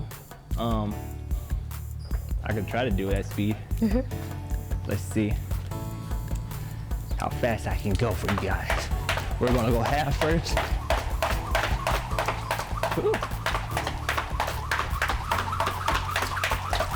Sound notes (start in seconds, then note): 3.8 giggles